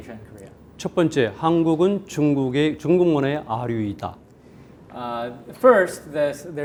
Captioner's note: speaking in Korean